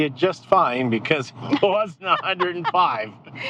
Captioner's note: laughing